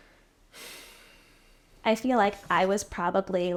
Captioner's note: sighing